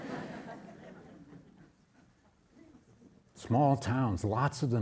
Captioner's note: audience laughing